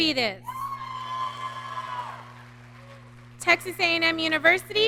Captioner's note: audience cheering